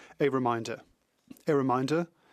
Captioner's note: speaking French